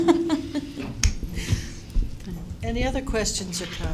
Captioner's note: laughter